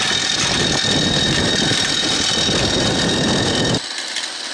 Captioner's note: wind roaring